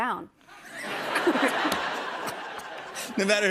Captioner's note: laughter